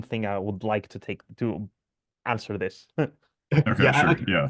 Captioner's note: laughs